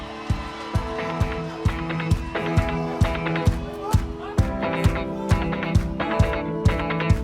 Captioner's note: audience clapping; upbeat band music